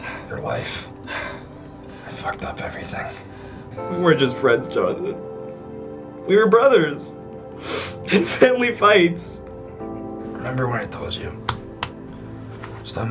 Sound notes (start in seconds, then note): 7.5 Ethan sniffling; 12.9 hand tapping